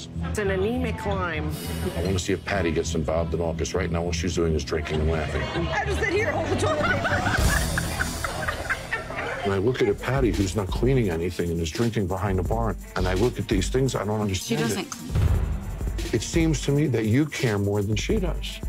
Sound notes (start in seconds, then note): 8.3 laughing